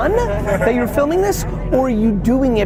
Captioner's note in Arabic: يضحكون